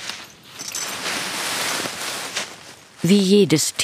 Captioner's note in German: Rascheln